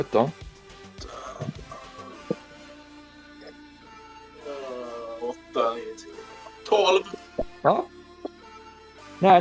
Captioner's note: mumbles counting